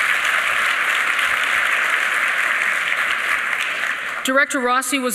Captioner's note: applause